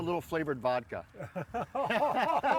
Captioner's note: laughing